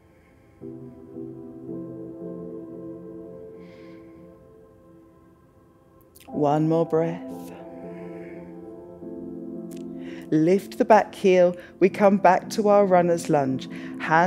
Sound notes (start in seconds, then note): 0.2 exhales; 3.6 inhales; 9.9 exhales